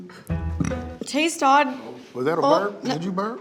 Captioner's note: burps